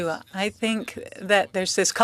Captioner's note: speaking French